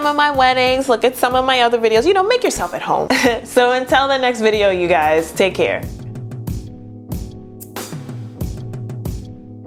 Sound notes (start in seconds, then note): 3.1 chuckles; 6.4 outro music plays